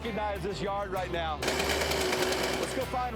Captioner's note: machine crashing